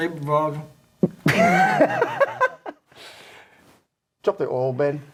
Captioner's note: laughing